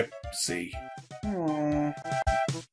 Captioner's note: groans